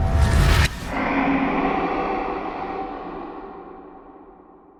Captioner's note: echoing growl